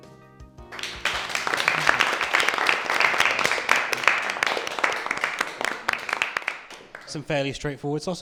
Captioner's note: applause